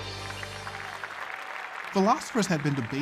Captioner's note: applause